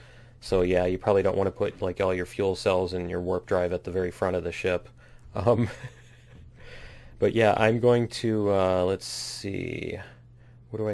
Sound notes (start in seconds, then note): 5.4 laughs